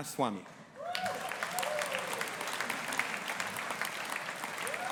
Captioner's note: audience applauding